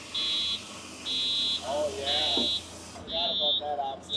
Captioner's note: machine beeping